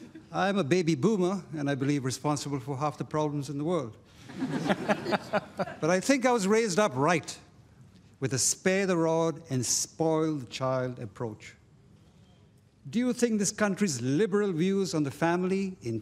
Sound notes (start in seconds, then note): 4.2 laughter